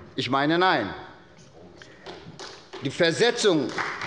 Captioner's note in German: Beifall bei Abgeordneten der SPD